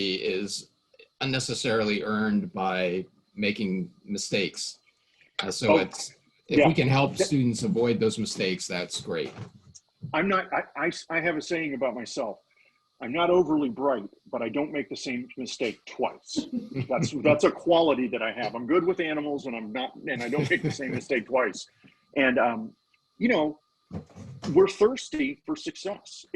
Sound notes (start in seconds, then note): 16.7 laughing; 20.0 laughing